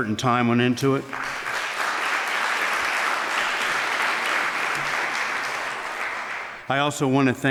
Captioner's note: applause